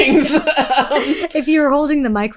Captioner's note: both laughing